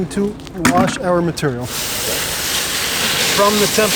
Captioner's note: water splashing